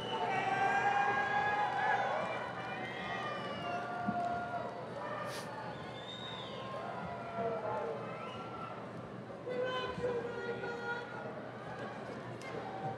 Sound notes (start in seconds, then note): 5.1 audience members cheering; 5.2 audience chattering